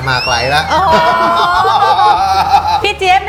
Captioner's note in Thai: หัวเราะ